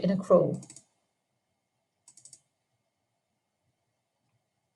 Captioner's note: mouse clicking